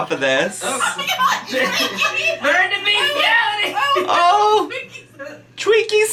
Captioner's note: multiple people yelling and laughing